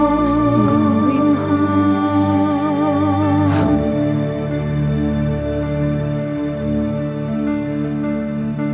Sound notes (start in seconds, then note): 2.8 hum